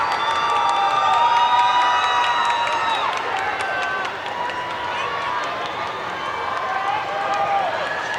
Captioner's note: cheers and Applause